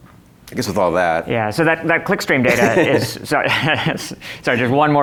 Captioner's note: laughs